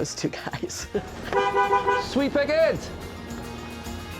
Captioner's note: honks horn